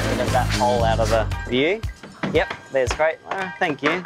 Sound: none

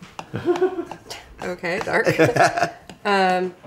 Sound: laughs

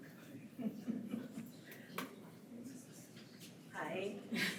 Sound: attendee chuckles

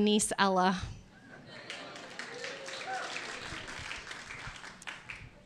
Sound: audience cheers

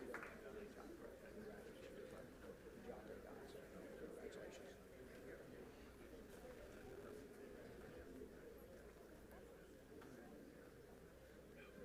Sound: applause; group chatter

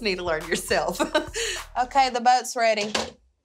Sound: laughs

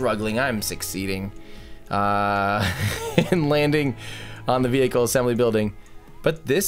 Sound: chuckling

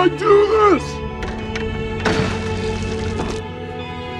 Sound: plastic bottles smash

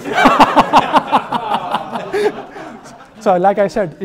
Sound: they all laugh

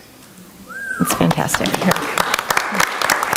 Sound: audience member whistles; audience applauding

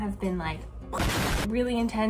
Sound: explosion blasts

